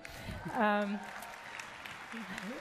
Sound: applause

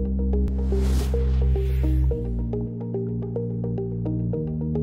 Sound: air whooshing

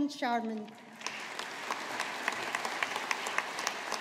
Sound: audience applauding

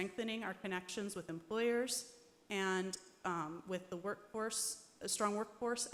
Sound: none

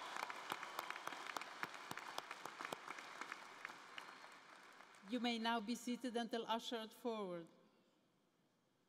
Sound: cheers and applause

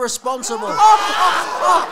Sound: group Laughter

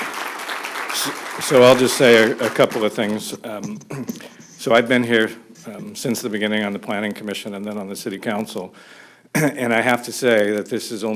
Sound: applause

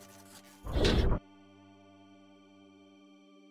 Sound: heavy door opens again

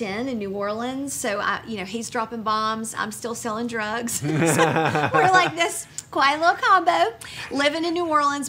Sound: laughing

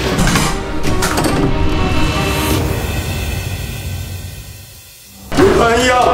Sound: sound of walking; sound of opening the door; sound of walking

